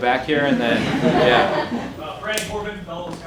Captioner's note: audience laughing